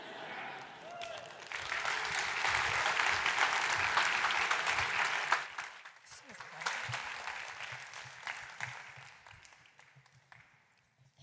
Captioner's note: applause